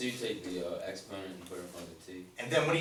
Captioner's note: voiceover